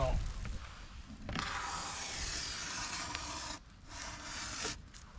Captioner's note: foam scraping